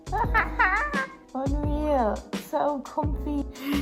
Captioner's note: laughs excitedly